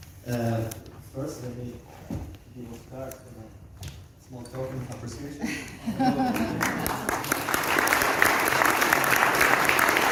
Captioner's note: applause